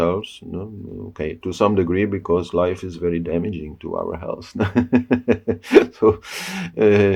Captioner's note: laugh